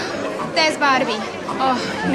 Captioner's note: gasps